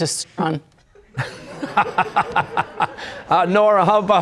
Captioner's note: laughter